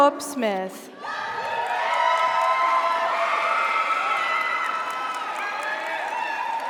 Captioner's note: audience cheers; audience applauds